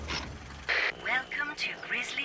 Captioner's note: car Approaching; speaker Crackles